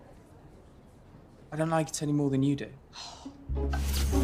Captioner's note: alice growls; magical buzzing sound